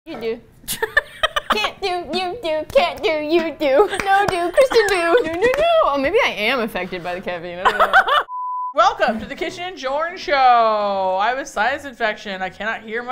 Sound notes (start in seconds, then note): 0.7 laughs; 1.3 chanting cheerfully; 7.6 both laugh